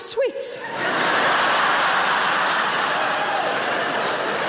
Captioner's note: audience laughter